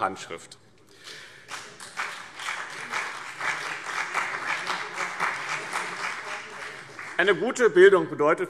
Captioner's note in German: Beifall BÜNDNIS 90/DIE GRÜNEN und CDU